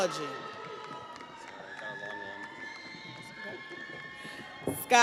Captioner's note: audience applauds; audience cheers